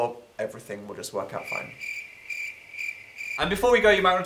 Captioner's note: crickets sound effect